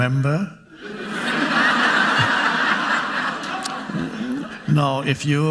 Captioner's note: audience laughing